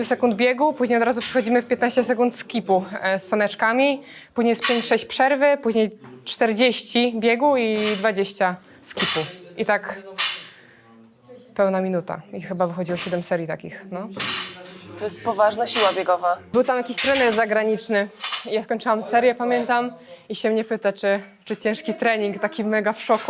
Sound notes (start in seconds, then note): none